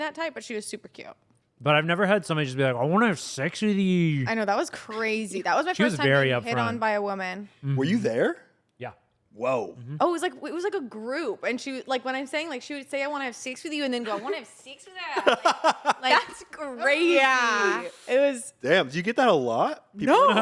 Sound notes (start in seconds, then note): 15.2 laughs